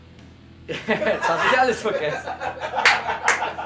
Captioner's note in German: lachen